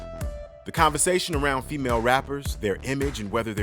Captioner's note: voiceover